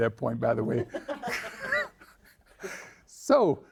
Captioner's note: all laughing